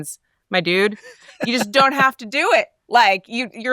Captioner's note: laughs